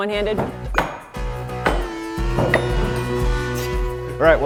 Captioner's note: ax striking